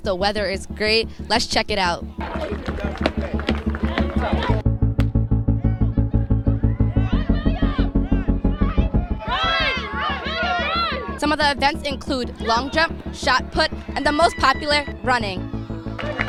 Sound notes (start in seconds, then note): 4.0 inspirational instrumental; 9.1 cheering; 15.9 clapping